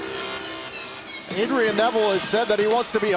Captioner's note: cheers & applause